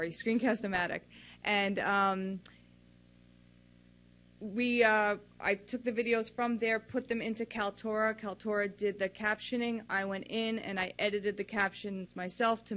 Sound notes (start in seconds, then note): none